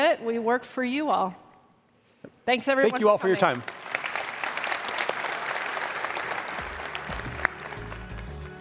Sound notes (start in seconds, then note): 2.9 applause